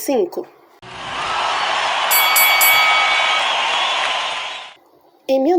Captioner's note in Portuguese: Som de ringue